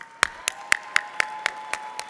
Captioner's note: applause